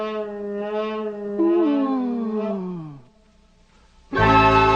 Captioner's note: moans in relief